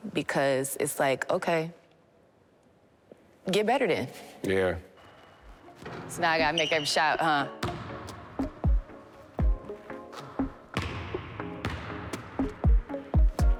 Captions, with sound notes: because it's like okay, get better then. So now I gotta make every shot, huh. (ball bouncing)